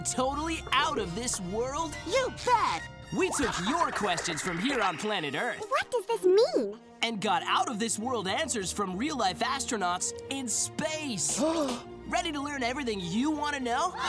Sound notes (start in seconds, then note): 11.4 gasp